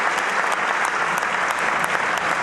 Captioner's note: applause